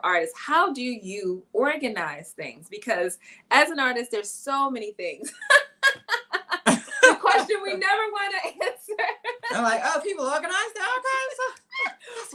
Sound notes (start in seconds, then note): 5.3 laughing